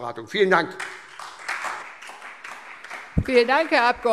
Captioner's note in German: Beifall SPD